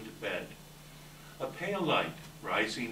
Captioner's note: none